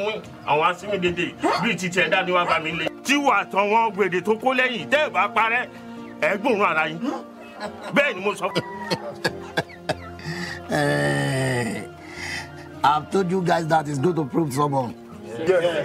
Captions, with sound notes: (Ekong chuckles) - I told you guys that he would prove stubborn.